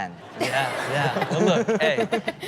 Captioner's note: audience laughing